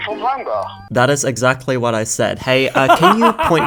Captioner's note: laughing